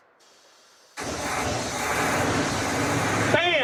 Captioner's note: engine starts